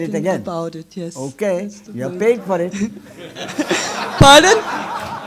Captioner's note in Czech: smích